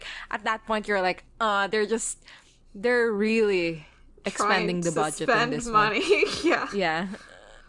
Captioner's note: both laugh